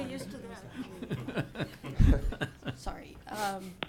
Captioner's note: laughing